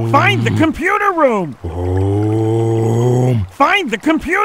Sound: annoyed Om

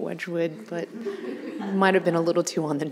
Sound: audience laughing

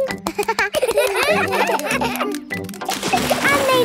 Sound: children laugh

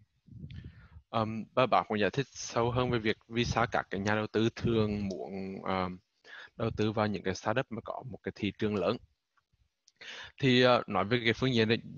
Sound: speaking vietnamese

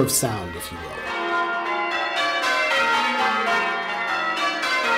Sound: bells ringing

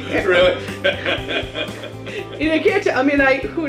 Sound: laughs

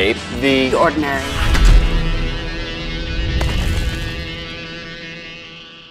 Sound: booming sounds

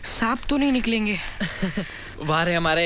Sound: chuckles

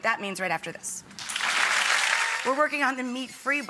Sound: audience clapping

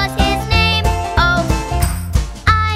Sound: clap

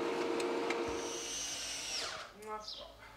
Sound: electric whirring

